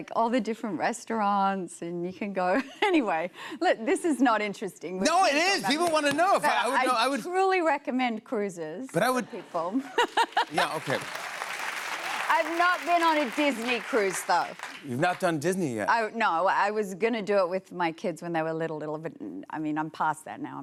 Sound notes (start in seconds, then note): 9.8 laughs; 10.4 cheers and applause